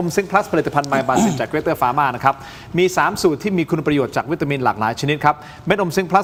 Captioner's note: clears throat